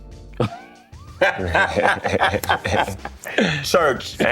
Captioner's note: laughing